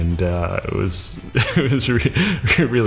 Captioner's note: laughs